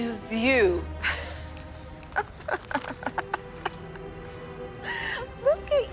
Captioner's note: laughs